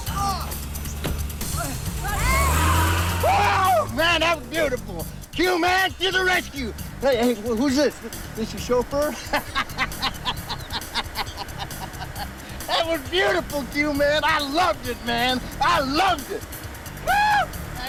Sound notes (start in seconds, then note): 1.8 overlapping chattering; 9.0 laughs; 17.0 cheers